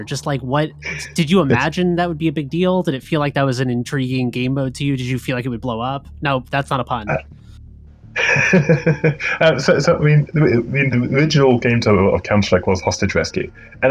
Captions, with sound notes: Just like, what, did you imagine that would be a big deal? Did it feel like that was an intriguing game mode to you? Did you feel like it would blow up? No, that's not a pun. - (laughs) So I mean, the original game type of Counter-Strike was Hostage Rescue